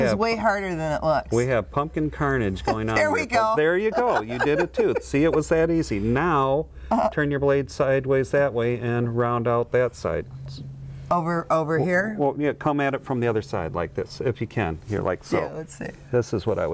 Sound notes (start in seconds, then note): 3.7 laughs